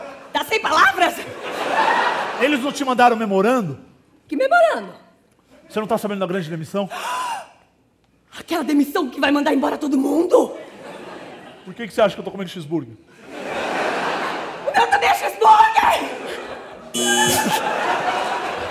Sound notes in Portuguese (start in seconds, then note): 6.9 suspiro de susto; 14.6 assustada; 16.9 campainha